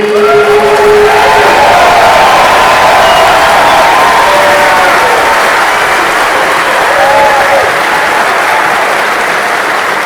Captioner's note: thunderous applause